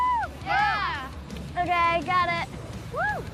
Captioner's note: all cheer